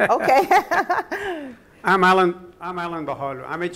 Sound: laughter

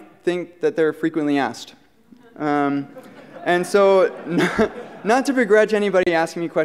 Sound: laughter

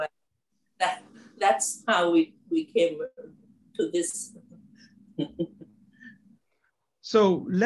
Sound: laugh

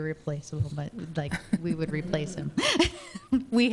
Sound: chuckles

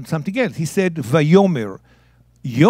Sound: speaking in Hebrew

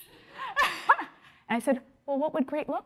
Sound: laughing

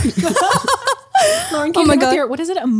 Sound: laughs

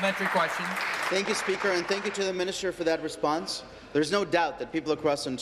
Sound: applause

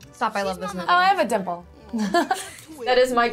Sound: laughs

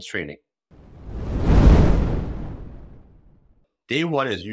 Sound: whooshing sound effect

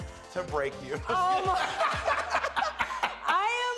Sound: laughter

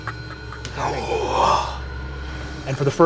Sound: cackling; imitates ghastly screeching

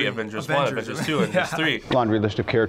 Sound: chuckles

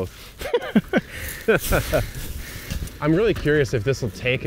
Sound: laugh

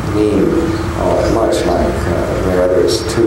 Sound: mutters

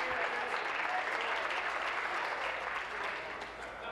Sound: applause

